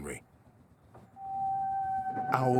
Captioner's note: hoot